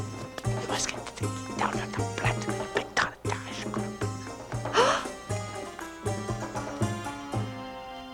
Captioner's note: Mordecai whispering, Esther gasps